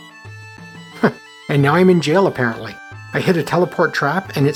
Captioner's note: chuckles